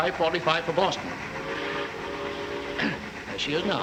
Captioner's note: train whistle